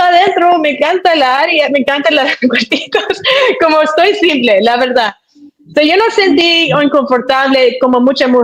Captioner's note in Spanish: risas